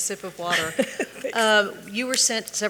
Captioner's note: chuckling